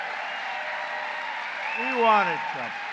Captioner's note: applause